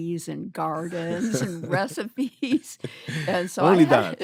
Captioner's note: laughter